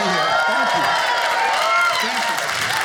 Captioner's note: audience cheers